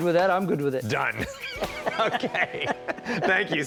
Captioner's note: laughing